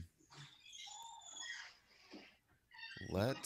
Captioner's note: door creaking